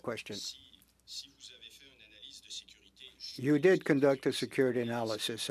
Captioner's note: speaking French